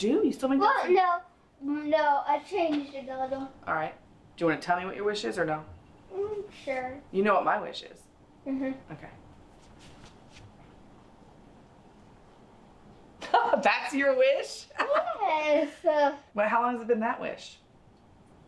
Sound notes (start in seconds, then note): 13.2 laughs